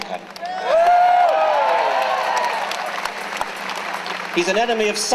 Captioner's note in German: Jubeln